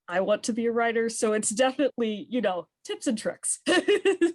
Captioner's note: laughs